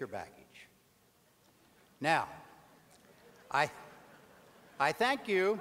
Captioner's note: audience laughter